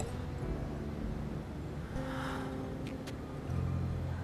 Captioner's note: sigh